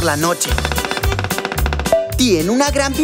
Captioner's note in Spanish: Sonido de pájaro carpintero